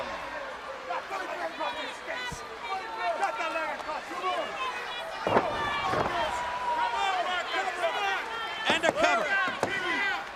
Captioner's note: crowd chatter